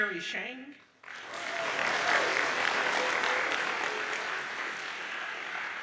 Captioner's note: audience applauds